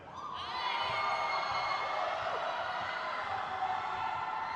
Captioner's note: crowd cheers